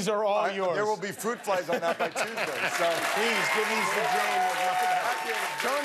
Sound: cheers and applause

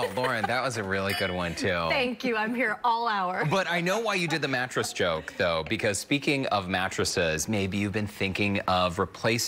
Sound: laughter

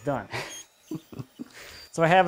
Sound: laughs

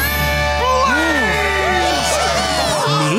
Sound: cheering

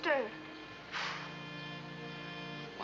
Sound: sighs

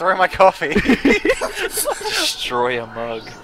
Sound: laughter

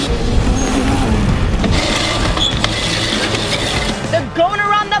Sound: engines revving

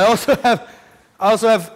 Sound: laughter

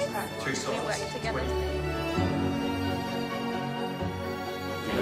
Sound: artists chattering

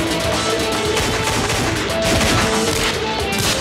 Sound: gun shots

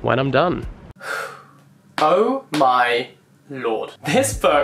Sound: sighs

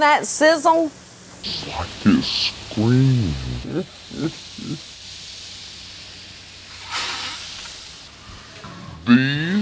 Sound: evil chuckle

